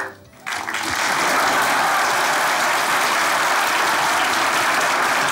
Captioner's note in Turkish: Alkış sesleri